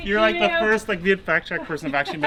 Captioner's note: laughing